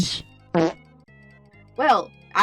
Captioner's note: fart sfx